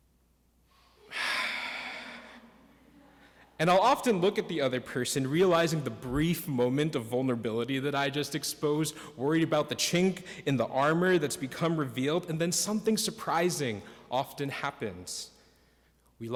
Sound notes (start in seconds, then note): 0.7 exhales; 1.3 congregation laughs